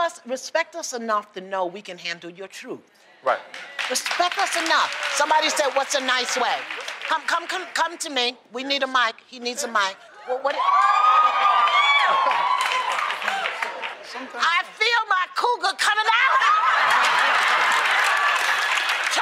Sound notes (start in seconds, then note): 3.4 applause; 10.3 cheering; 11.2 applause; 16.3 laughter; 16.7 applause